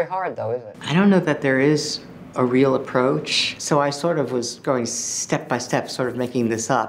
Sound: narrating

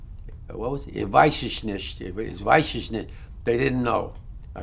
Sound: german

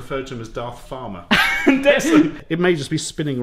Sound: both laugh

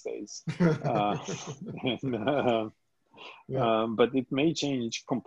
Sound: laughs

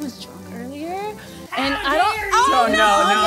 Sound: Georgian

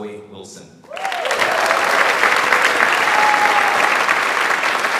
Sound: audience applauds

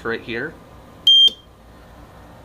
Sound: beep

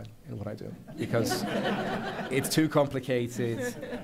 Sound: laughter

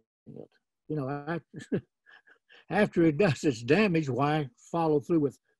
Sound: laughs

